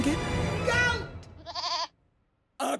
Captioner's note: goat bleats